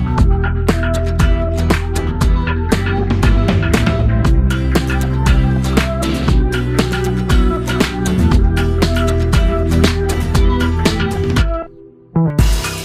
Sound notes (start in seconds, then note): none